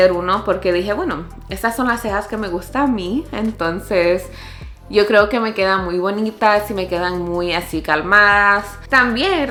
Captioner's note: in spanish